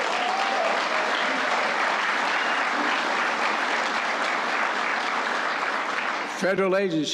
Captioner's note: applause